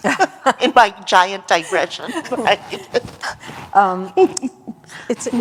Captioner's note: laughter